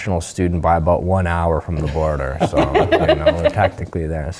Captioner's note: laugh